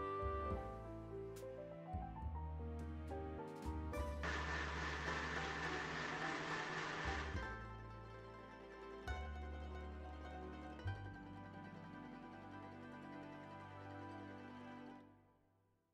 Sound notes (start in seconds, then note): 2.6 calm music; 4.2 blender Sound